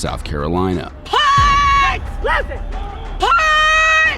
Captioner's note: yelling